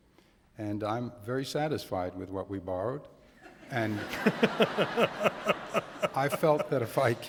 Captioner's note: laughter